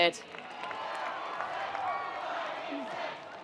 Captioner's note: attendees cheering